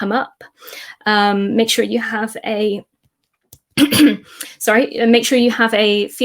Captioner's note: throat clearing